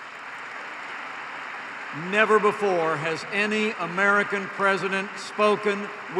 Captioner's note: applause